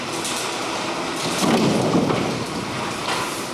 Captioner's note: odd explosion